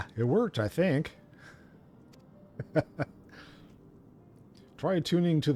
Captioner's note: laughs